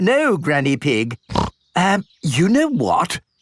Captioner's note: snorts